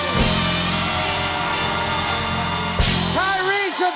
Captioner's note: cheers and applause